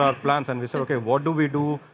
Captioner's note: chuckling